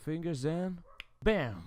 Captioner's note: finger snapping sound